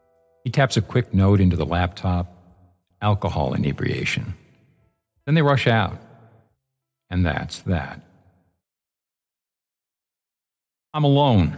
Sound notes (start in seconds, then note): 7.8 silence